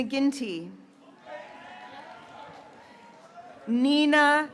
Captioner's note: graduates cheering